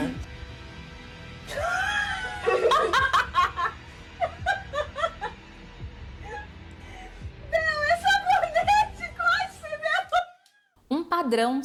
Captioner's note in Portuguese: risadas